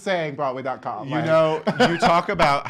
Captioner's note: laughs